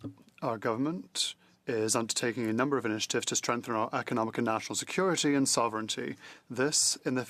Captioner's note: speaking French